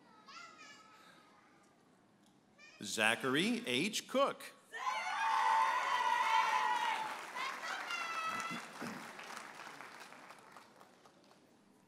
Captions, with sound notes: Zachary H. Cook. (audience applauding and cheering)